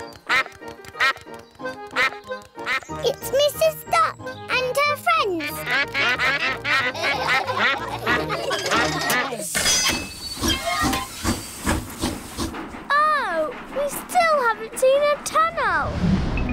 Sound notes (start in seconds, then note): 0.4 quacks; 5.2 all quack; 6.0 laughter; 10.0 train chugs